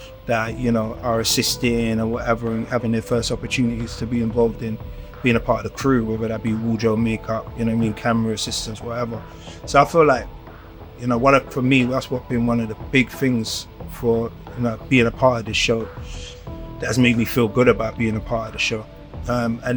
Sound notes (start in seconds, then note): none